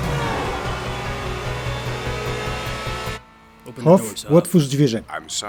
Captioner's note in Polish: auta titajōm, motōr ôd auta nabiyrŏ szwōngu